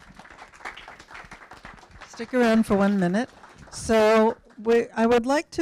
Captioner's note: applause